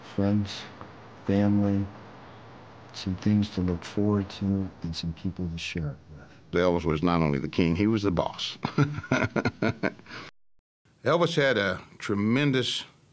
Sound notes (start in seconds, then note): 8.5 laughs